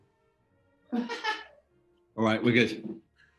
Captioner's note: laughs